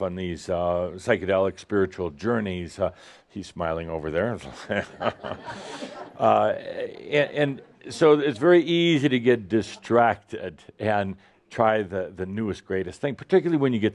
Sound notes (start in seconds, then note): 4.5 some laughter